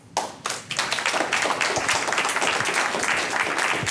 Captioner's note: applause